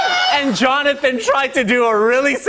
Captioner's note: laughter